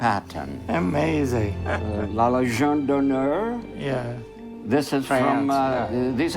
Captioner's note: speaking in foreign language